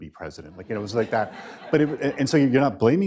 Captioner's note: laughter